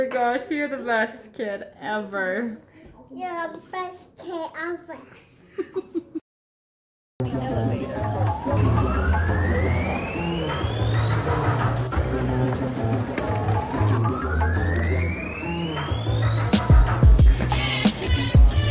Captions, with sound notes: Oh my gosh, you're the best kid ever. (laughs) (funky music)